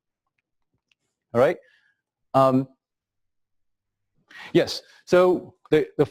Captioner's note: pause